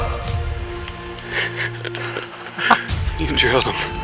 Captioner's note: excited laugh